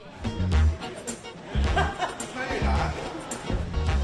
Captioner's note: laughs